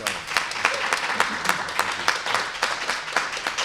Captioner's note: applause